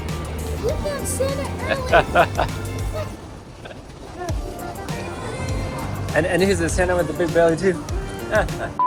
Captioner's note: laughter